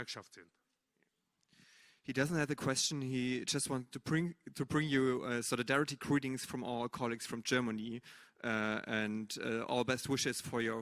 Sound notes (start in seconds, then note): 2.2 speaking german